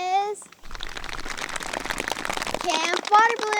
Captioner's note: hands pattering